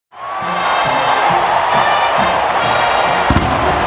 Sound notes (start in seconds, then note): 0.1 crowd cheering; 1.9 marching band playing